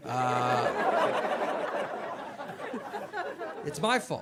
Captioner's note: audience laughing